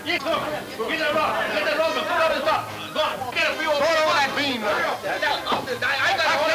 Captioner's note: men yelling simultaneously